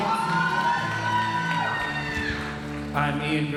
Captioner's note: audience cheering and applauding